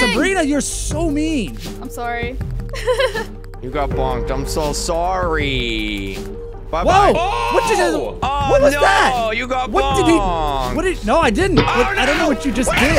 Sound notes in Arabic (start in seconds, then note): 2.7 يضحك; 11.5 قعقعة معدنية